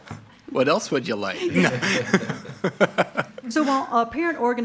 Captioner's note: committee laughs; laughs